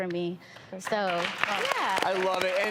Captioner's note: audience applauding